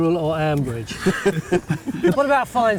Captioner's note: all laughing